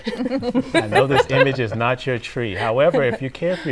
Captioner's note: laughing